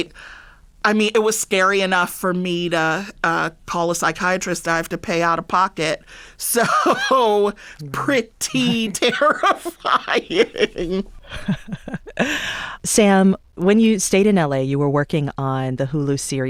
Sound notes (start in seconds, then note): 6.6 laughter